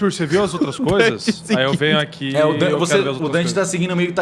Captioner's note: laughs